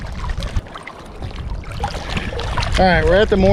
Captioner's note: water rippling